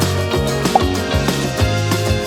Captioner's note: upbeat music; air pops